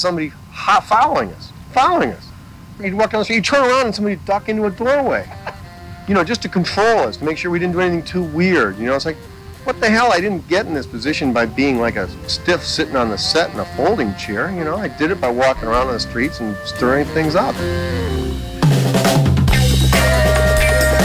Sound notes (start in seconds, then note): 5.3 laughter